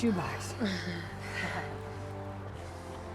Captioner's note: chuckles